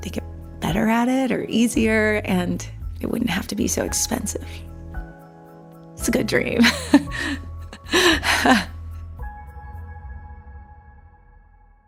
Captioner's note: laughs